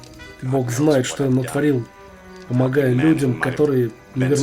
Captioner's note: none